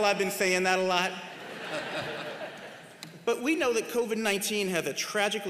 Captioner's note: laughter